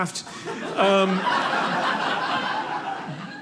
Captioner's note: audience laughing